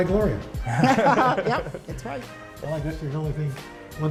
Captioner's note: laughter